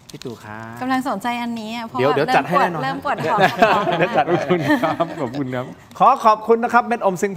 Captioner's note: laughs